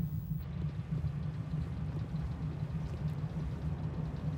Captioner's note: insects chirping